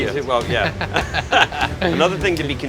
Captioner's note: laugh together